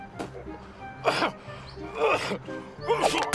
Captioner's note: coughing